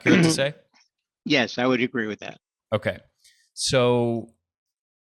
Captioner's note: clears throat